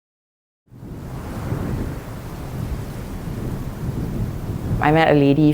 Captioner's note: wind sounds